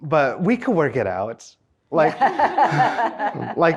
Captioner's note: everyone laughs